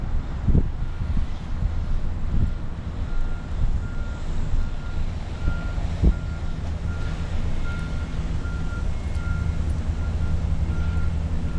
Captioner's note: beeping & construction sounds